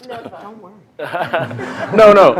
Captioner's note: laughter